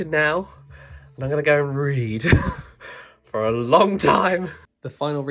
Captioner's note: laughs